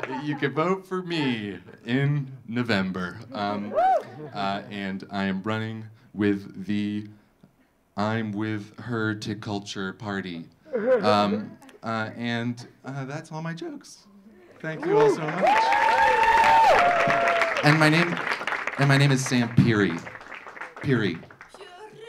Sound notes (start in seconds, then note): 3.5 audience cheering; 10.7 audience laughing; 14.4 audience clapping; 14.5 audience cheering